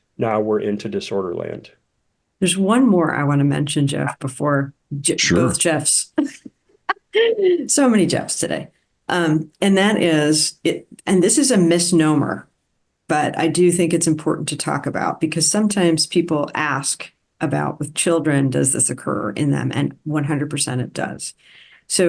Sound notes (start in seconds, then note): 5.2 chuckles